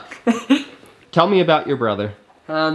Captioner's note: laughs